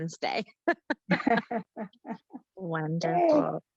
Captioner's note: panelist laughing